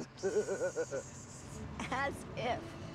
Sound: ch uckling

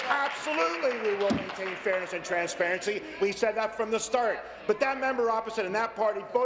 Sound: applause

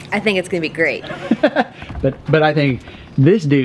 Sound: laughs

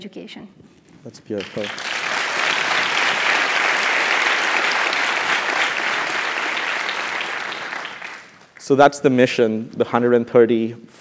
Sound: applause

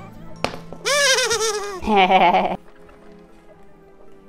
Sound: aliens laugh

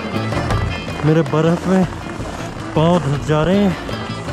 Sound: slipping and struggling on ice

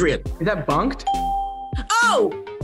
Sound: bell rings

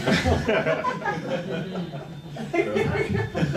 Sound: laughing

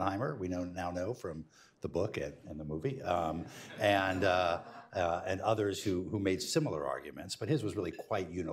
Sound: laughter

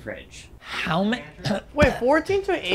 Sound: choking

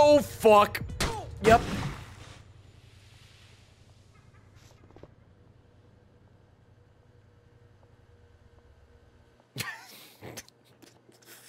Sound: laughs

